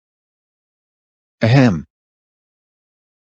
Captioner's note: ahem!